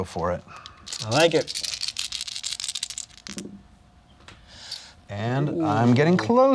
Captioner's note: dice rattling